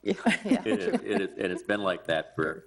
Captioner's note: all laugh